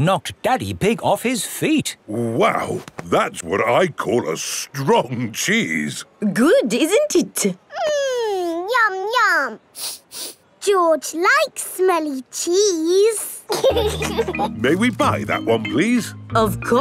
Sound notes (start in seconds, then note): 9.7 sniffs; 13.4 laughing